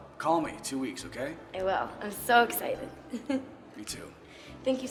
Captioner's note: giggles